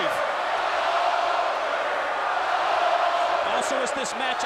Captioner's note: crowd chanting